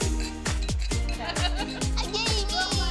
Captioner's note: laughter